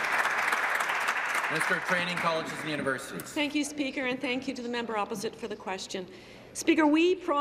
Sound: applause

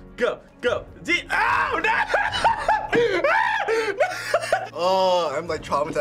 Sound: laughs

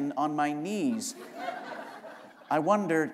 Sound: laughter

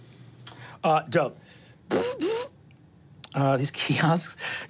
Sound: mimics electronic servos moving

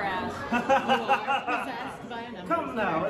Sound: laughing

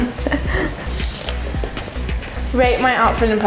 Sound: laughing

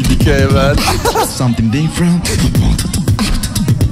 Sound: scratches

